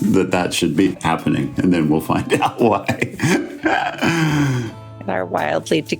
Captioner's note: laughs